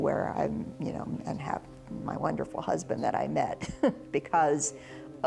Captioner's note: laughs